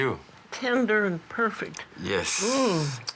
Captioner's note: voiceover